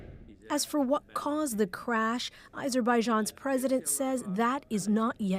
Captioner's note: speaking alternate language